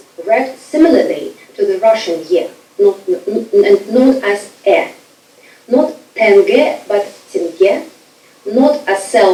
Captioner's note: speaking foreign language